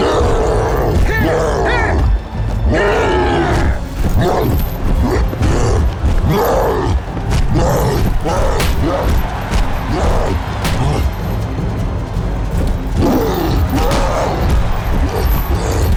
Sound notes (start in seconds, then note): 4.9 cyclops grunting; 6.0 crowd cheering; 9.4 roaring; 12.4 suspenseful music playing